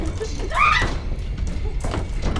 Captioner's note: screaming; suspenseful music